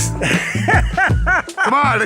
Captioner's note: laughing